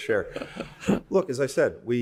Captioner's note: laughter